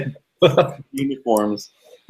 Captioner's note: laughing